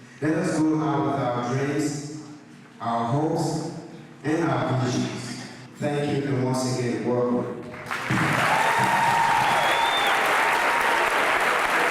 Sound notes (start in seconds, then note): 7.9 crowd cheering